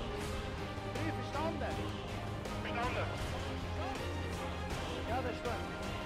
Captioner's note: shouting in foreign language